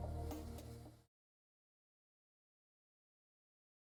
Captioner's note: silence